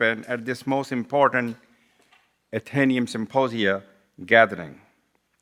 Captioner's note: none